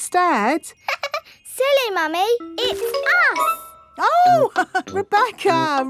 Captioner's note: laughs; chuckles